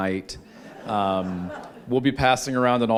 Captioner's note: laughter